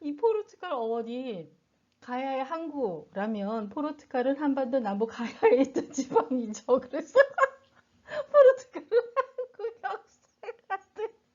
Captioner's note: burst into laughter